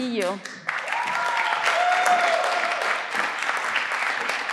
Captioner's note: everyone claps